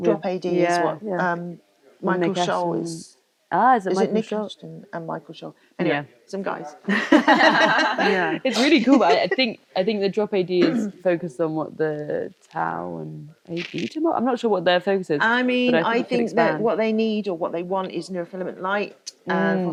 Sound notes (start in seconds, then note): 6.8 all laughing